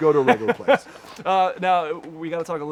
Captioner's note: laughs